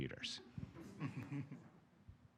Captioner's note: laughter